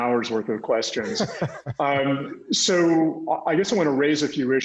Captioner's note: laughs